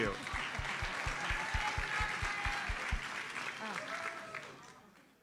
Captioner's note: audience applauds